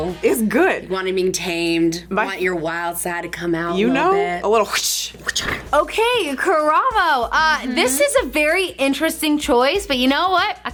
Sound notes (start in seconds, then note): 4.6 mouhs whoooshing